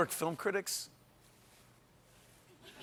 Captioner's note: laughter